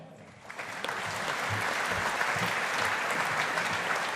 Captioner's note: audience applauding